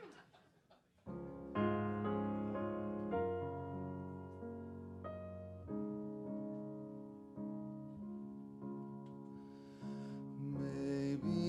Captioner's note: laughter